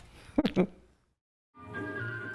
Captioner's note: chuckles